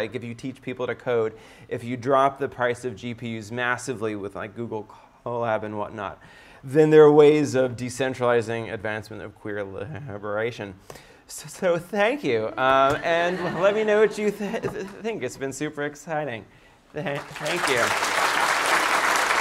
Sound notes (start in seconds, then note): 17.1 applause